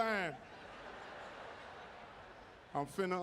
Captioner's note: audience laughing